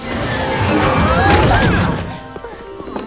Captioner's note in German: Zauberhafte Klänge; Schreie